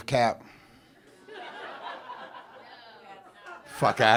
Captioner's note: audience chuckles